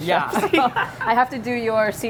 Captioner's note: both laugh